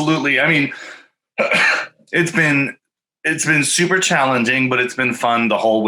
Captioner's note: coughing